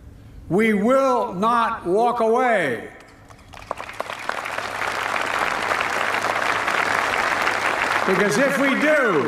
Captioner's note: applause